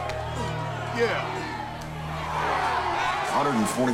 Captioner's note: crowd cheers